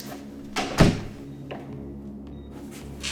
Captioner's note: closing door